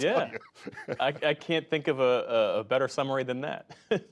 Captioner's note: laughter